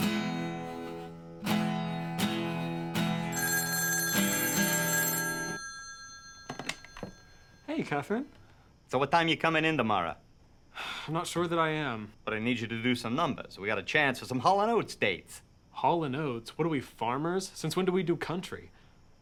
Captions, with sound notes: (pleasant guitar music) (phone ringing) - Hey, Catherine. - So what time are you coming in tomorrow? - I'm not sure that I am. - But I need you to do some numbers. - We got a chance for some Holl and Oats dates. - Holl and Oats? What are we, farmers? Since when do we do country?